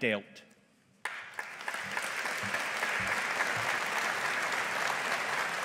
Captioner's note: audience applauding